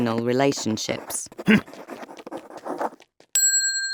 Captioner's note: Barnabas harrumphing; bell ringing